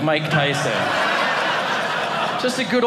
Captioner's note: audience laughing